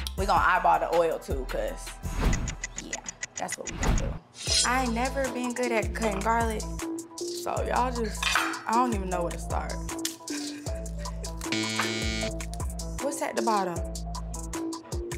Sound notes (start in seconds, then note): 11.5 buzzer rings